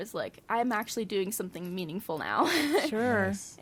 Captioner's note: laughs